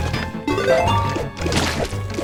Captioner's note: blood squelching; bright chiming; blood squelching